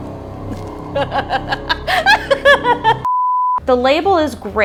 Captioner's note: laughing